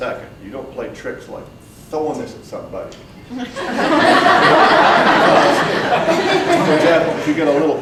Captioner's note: audience breaks out in laughter